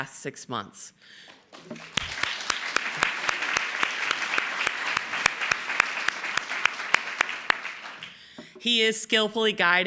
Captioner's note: applause